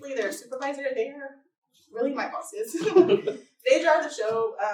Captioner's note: laughter